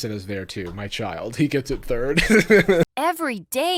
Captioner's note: chuckling